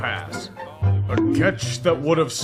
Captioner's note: bonk